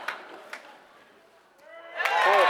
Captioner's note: applause